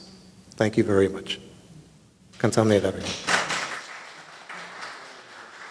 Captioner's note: audience applauding